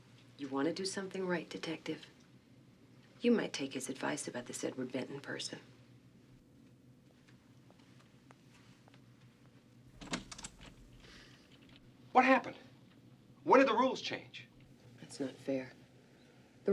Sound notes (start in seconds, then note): none